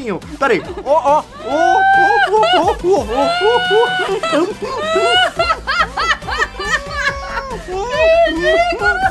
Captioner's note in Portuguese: dá risadas